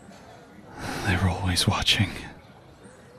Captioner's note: sighing